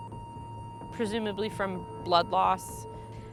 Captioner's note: flatline beeping